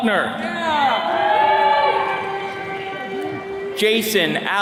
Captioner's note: attendees cheering